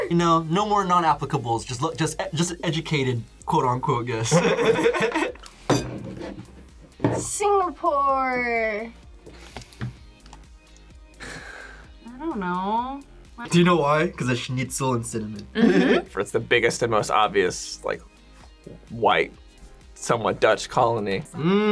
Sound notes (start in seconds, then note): 4.3 laughs